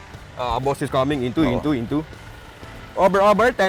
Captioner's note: radio